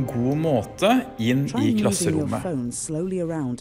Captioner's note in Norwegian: Snakker på engelsk